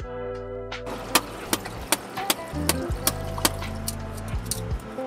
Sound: tapping sounds

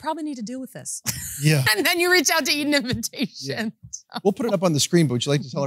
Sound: laughs

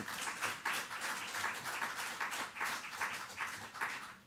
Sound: applause

